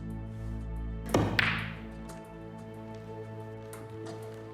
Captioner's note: balls cracking